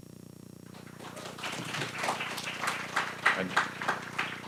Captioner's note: applause